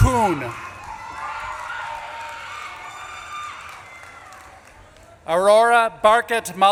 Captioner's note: audience claps and cheers